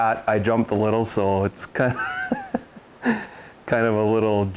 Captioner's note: laughs